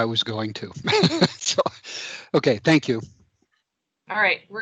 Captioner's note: laughs